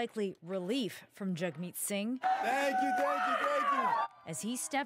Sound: cheering

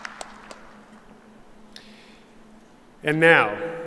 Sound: applause

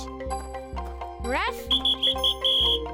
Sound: whistle blowing

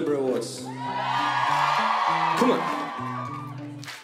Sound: audience cheering

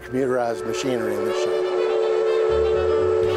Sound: train whistle blows; upbeat polka music

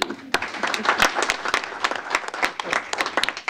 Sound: applause

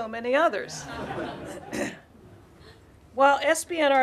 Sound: laughter

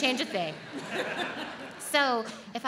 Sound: audience laughs

